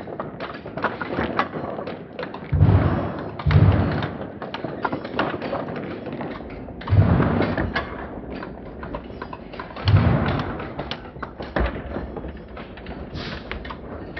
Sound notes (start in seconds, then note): 4.7 slow-mo MMX sounds continues